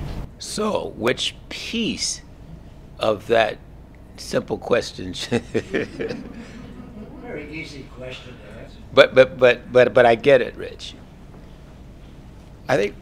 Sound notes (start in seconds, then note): 5.2 laugh